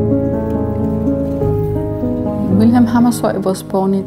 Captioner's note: bicycles rattling